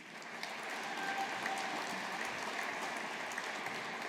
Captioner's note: audience applauding